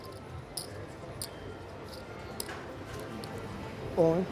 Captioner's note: soft clacking